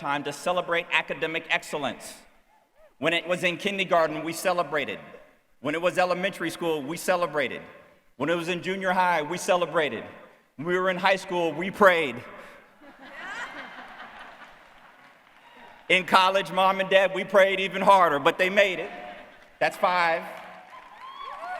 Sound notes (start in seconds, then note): 12.6 cheer; 19.6 audience cheer